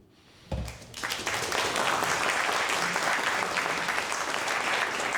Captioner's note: audience applause